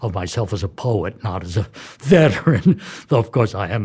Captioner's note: laughs